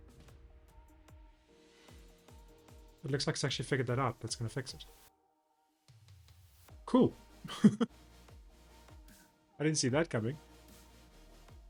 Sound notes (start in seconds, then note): 7.5 laughs